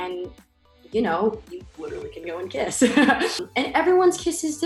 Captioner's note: laughs